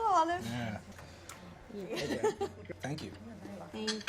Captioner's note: laughing